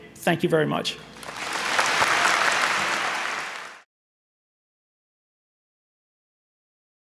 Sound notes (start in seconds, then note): 1.1 audience applauding